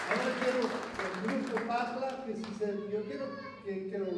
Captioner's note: non-english speech